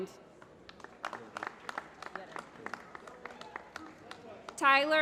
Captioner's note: applause